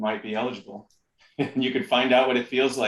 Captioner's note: laughter